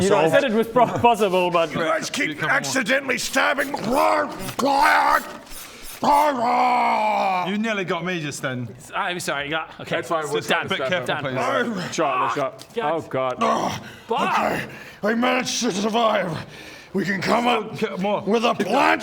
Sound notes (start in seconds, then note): 3.9 rwargh glargh; 6.0 glargh raarghhh